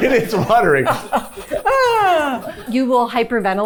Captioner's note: chuckling; panting